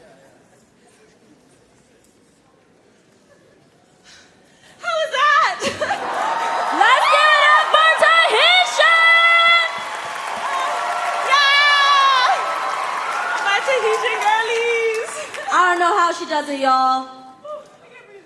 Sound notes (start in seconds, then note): 5.6 cheering; 9.7 applause; 9.7 cheering; 12.1 applause